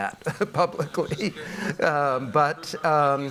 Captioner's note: laughs